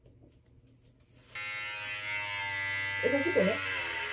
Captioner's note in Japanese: バリカン音